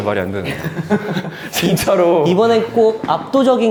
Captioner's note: resentful